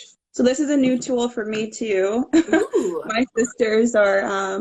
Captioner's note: laughing